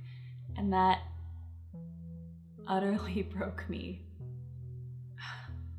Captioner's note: sighs